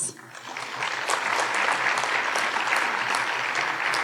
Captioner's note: audience applauding